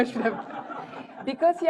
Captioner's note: laughter